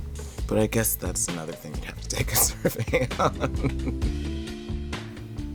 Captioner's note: laughs